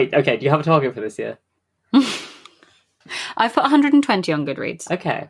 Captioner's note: laughs